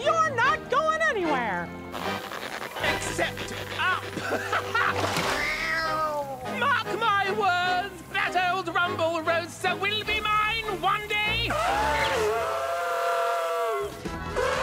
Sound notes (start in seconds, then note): 4.6 laughs; 5.4 Lazlo yowls; 11.9 elephant trumpeting